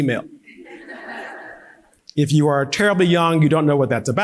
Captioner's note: audience laughing; laughing